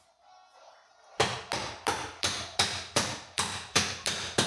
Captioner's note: hammer thudding